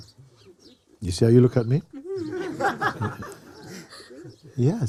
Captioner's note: laughter